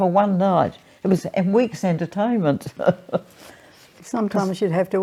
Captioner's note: laughs